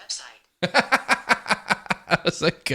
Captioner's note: laughing